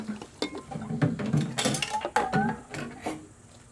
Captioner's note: items clattering